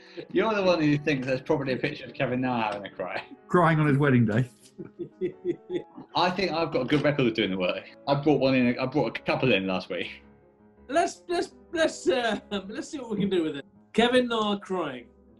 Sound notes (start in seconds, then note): 4.7 chuckling